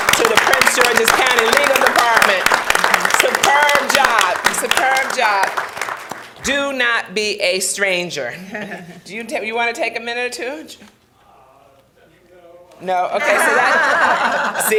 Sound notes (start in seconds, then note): 2.5 clapping; 13.2 laughing